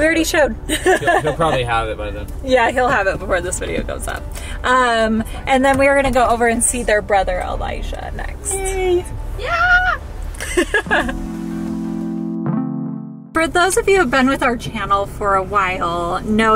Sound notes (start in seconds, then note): 0.8 laughs; 10.3 chill music; 10.4 laughs